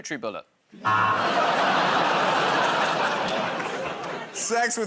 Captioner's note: audience "Oh"s